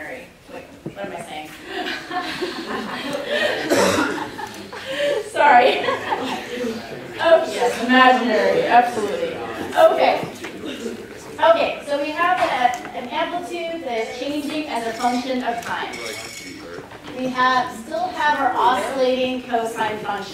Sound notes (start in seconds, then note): 1.7 laughter